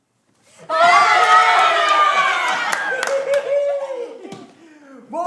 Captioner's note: people cheer